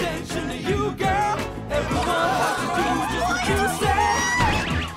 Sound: swooning

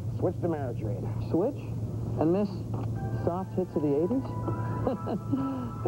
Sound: chuckling

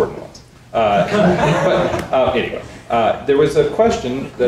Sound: people laughing

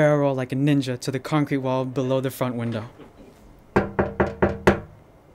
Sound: sound of Door Knocking

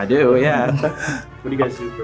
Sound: men chuckling

